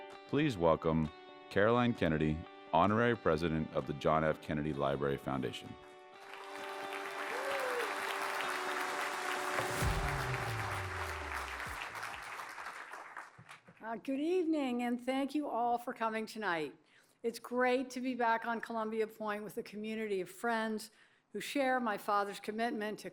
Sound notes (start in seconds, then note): 6.2 applause